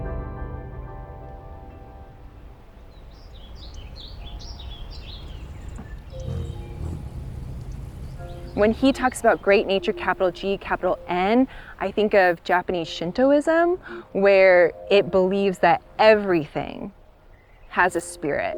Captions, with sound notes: (relaxing music fades out) (bright music) (birds chirping) When he talks about Great Nature, capital G capital N, I think of Japanese Shintoism where it believes that everything has a spirit.